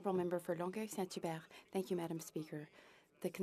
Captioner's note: speaking FRENCH